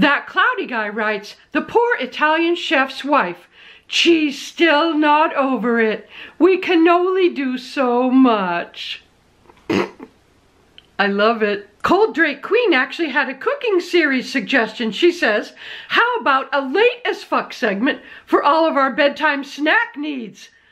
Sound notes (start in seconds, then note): 9.6 stifled giggle